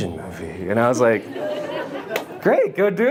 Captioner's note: audience laughs